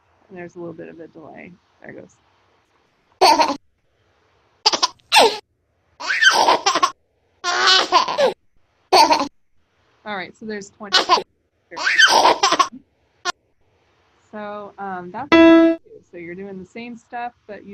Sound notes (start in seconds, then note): 4.8 baby laughing from iPad